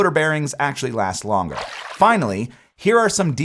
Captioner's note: water splashing